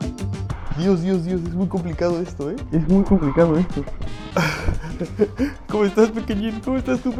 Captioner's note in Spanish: risas